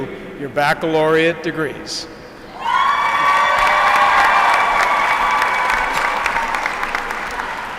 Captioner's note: applause